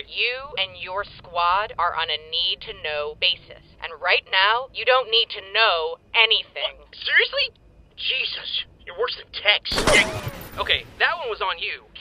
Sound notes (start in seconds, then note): 9.7 gunshots